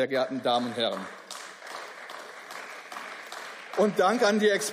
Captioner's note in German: Beifall